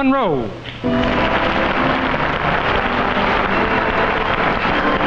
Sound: audience applauding

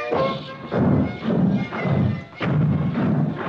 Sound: heavy thudding

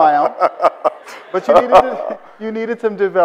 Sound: Bill laughs

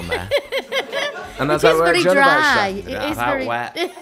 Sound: laughs

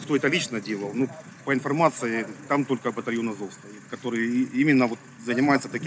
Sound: Ukrainian

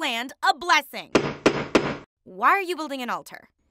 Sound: hammer bangs

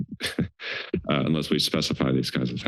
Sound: chuckles

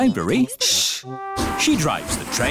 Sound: chattering

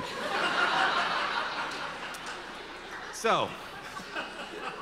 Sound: audience laughter

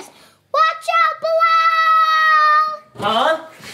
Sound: yells

